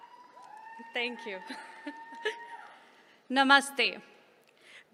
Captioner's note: laughter